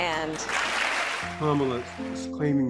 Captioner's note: applause